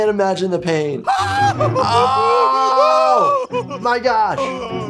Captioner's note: painful cries